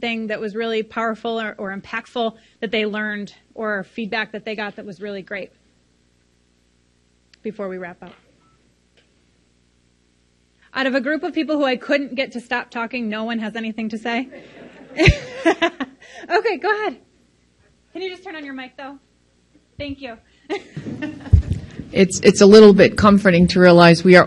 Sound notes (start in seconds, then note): 14.2 crowd laughs; 20.2 laughs softly